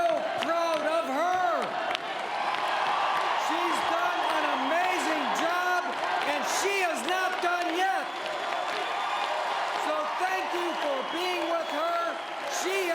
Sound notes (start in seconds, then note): 1.4 cheering